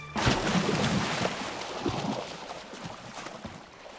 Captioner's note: water splashing